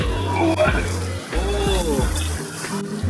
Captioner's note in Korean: 박수박수